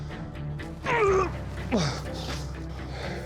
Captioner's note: grunting